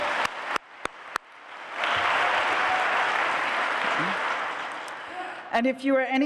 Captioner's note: applause